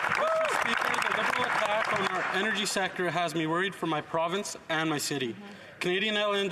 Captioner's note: some Applause